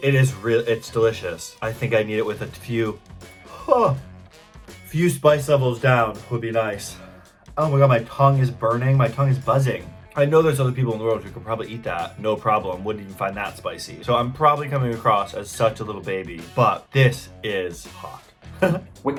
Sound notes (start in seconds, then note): 3.4 moans; 18.6 laughs